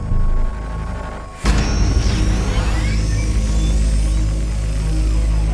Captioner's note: unibike engine starts. action music begins